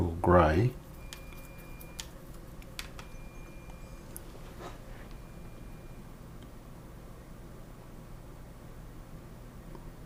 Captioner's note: silence